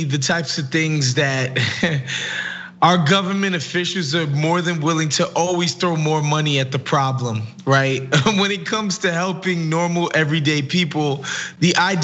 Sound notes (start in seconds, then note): 1.5 laugh